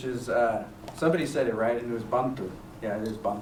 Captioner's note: non-english